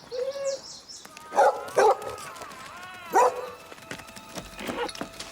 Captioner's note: dog barking